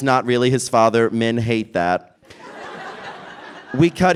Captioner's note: laughter